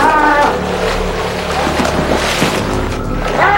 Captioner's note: yelling